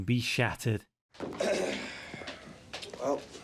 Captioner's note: carwood lipton clears throat, exhales deeply